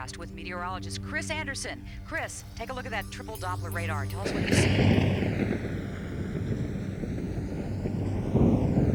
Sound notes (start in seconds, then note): 4.9 thunder crashing